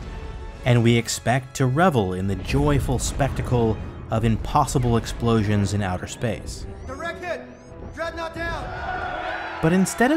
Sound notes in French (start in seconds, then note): 8.4 acclamations